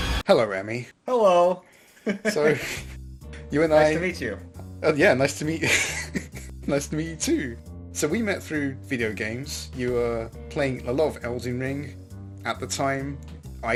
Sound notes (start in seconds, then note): 0.0 ominous music; 2.1 laughs; 5.6 laughs